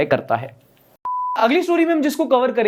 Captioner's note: beep